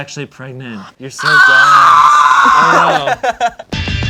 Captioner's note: screams; percussion sound